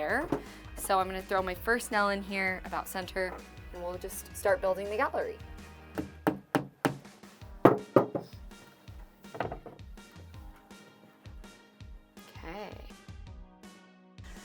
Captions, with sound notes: So I'm gonna throw my first nail in here about center and we'll just start building the gallery. (hammer thuds) (upbeat music continues) Okay.